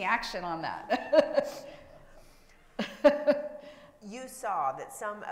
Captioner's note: laughs